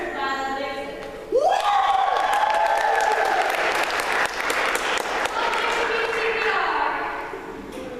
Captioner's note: applause